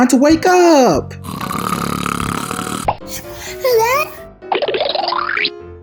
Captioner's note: Gaga Baby snoring; cartoony blooping